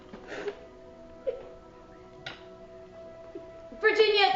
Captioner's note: Virginia sobbing